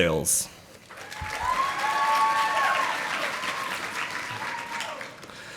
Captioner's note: audience applauding